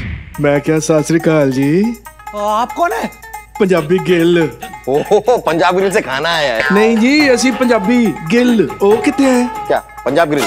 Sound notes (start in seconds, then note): 4.6 Laughs